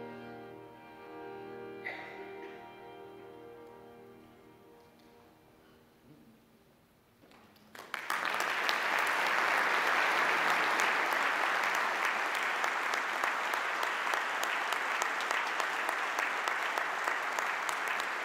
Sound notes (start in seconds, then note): 7.6 audience applause